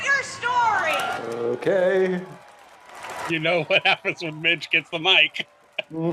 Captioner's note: cheering